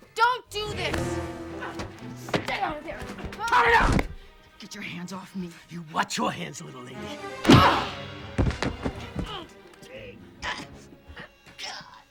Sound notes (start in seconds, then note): 8.2 knee thuds; 10.1 Cliff grunting